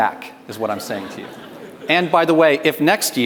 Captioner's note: audience laughs